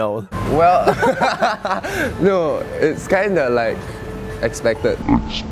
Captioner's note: laughs